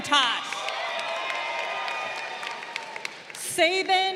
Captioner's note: crowd cheering